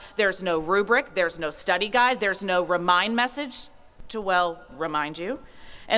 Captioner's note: none